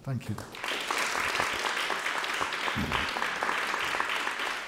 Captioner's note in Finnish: Applause